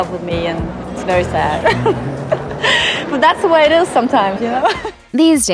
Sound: laughs

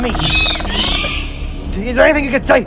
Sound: Raptor Squeals

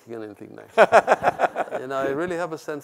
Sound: laughs

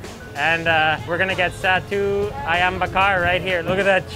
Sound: speaks in foreign language

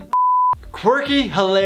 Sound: beep

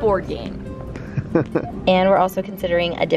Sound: laughs

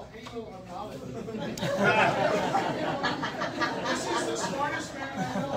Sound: audience laughs

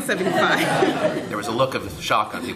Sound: laughter

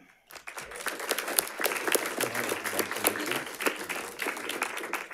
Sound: audience applauding

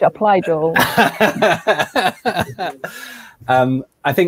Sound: laughing

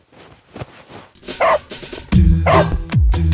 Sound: dog barking

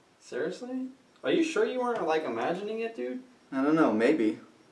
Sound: none

